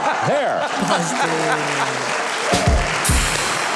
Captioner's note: audience laughs; audience claps